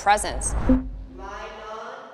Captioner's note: whooshes